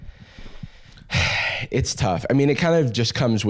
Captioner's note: sighs